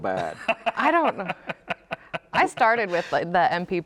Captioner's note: laughing